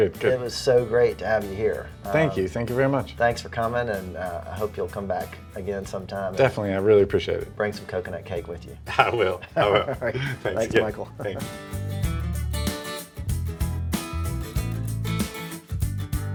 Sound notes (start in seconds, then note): 8.8 laughing; 12.3 upbeat country guitar music